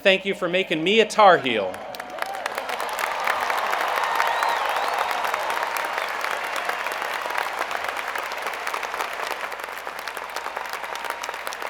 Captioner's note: cheers and Applause